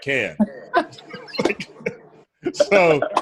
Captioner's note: both laugh